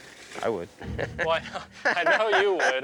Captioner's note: laughs